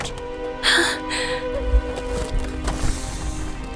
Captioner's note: Mila gasps